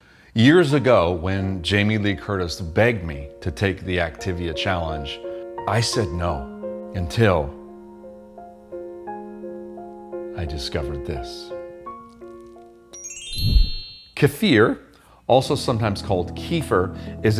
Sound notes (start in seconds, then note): 0.3 gentle music; 12.9 wind chime chiming